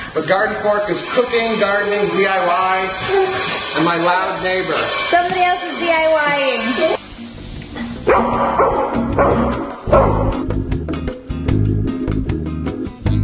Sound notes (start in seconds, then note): 8.0 dogs barking; 10.3 relaxed music